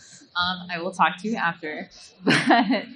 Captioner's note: laughs